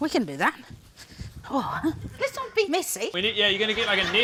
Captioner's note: sighs